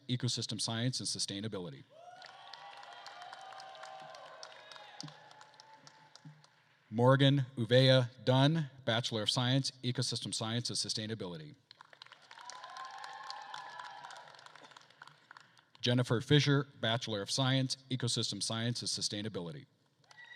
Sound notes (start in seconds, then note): 1.9 attendees cheering and applauding; 11.8 attendees applauding and cheering; 20.1 attendees cheering and applauding